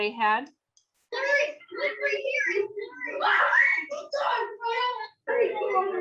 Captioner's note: children speaking excitedly